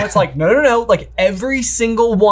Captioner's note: chuckles softly